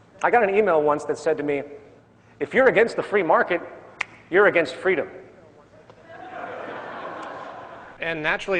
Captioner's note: laughter